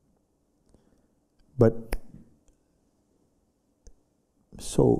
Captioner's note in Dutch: knipt met vingers